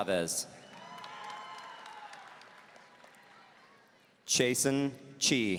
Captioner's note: audience cheering